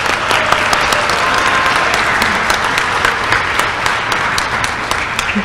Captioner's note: applause